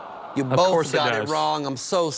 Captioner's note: audience groans